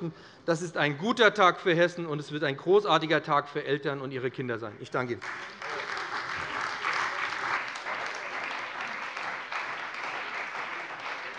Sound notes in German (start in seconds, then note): 5.2 Beifall bei dem BÜNDNIS 90/DIE GRÜNEN und der CDU